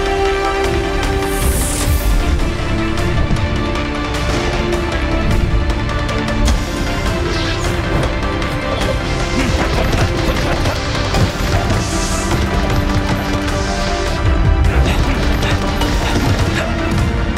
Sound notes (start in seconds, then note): 7.5 whooshing; 9.6 fists thudding